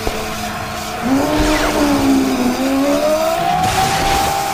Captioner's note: Aciris roars